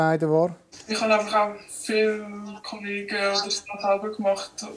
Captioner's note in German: Verzerrte Stimme